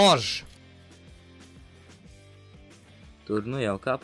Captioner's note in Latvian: neveikls klusums